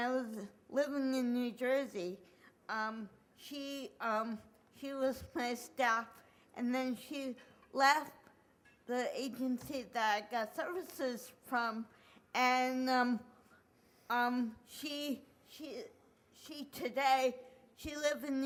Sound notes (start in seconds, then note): none